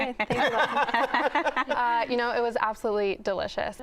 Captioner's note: laughter